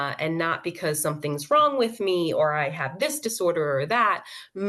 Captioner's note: none